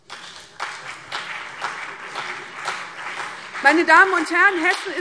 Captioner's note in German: Beifall CDU und BÜNDNIS 90/DIE GRÜNEN